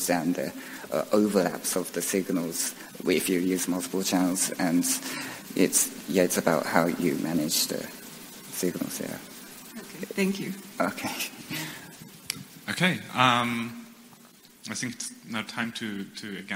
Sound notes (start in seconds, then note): 11.6 host speaker laughs